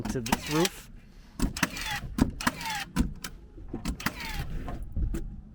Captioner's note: nail gun clicking